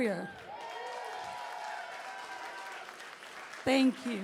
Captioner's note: cheering, applause